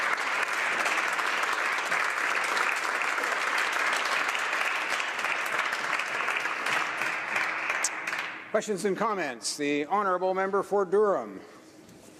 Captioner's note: applause